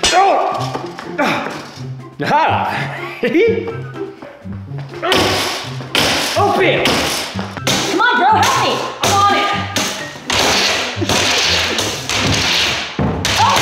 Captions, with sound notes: (moans in pain) (laughs) (bangs on box) Open! Come on bro, help me. - I'm on it! (bangs on box loudly)